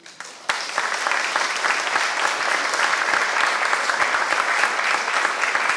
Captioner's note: applause